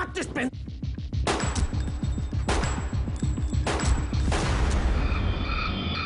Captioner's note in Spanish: Disparos